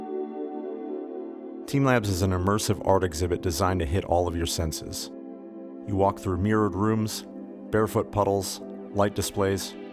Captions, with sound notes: (Voiceover) Team labs is an immersive art exhibit designed to hit all of your senses. You walk through mirrored rooms, barefoot puddles, light displays.